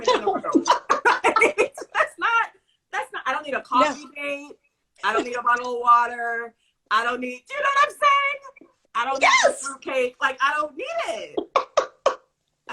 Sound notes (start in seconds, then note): 0.0 laughter